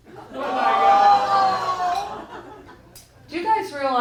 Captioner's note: audience groaning